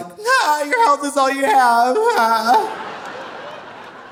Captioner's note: moans; audience laughing